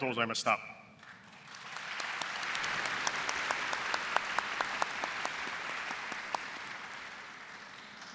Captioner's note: applause